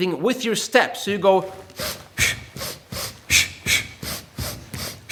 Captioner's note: air hisses